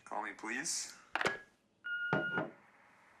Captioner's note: machine beeping